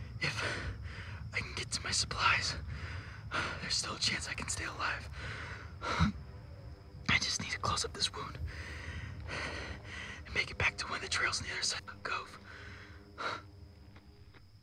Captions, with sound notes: If... I can get to my supplies, there's still a chance I can stay alive. I just need to close up this wound... [breathing heavily] ... and make it back to one of the trails on the other side of the cove.